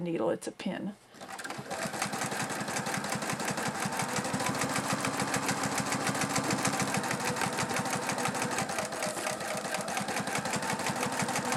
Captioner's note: sound of sewing machine